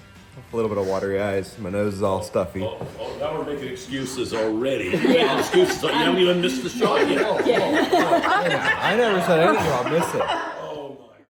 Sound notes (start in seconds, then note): 4.1 people laughing